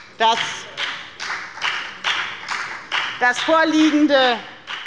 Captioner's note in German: Beifall bei der FDP